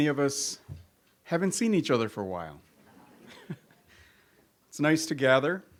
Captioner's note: chuckles